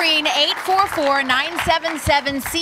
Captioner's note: applause